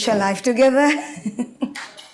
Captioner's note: laughs